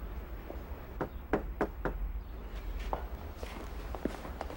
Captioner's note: knocking